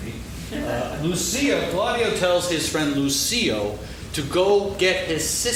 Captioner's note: laughing